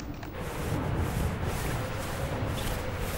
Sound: wind howling; sleeping bag rasping; thunder crashing

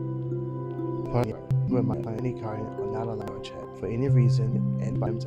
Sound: audio skips

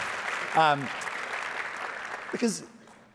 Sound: audience applauding

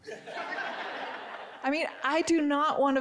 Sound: audience giggling

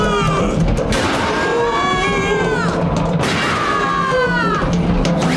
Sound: screaming

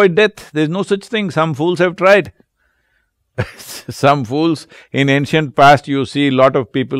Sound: laughs

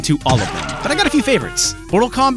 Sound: Kintaro screams

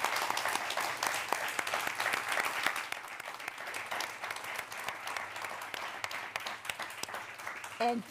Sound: applause

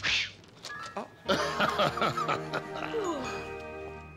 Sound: laughing

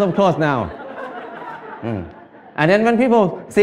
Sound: Smijeh

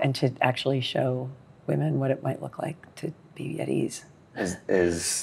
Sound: laughs

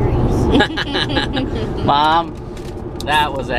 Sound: everyone laughing

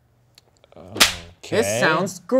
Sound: hands smacking

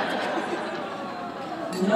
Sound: laughter

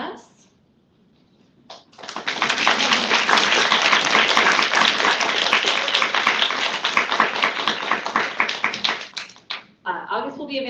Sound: applause

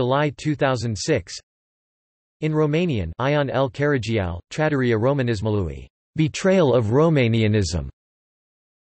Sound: in Romanian

